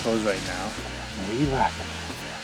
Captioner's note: small engine buzzing